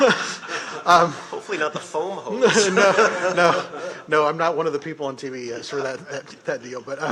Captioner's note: laughter